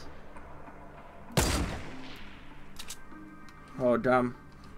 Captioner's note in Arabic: طلقات نارية